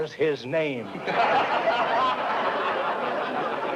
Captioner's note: laughter